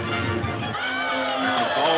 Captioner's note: group cheering